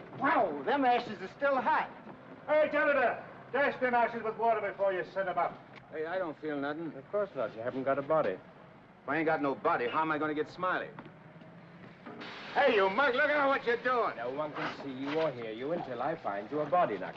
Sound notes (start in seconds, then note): 12.1 ashes hiss